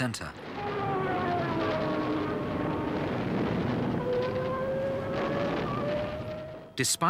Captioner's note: explosions booming; sirens wailing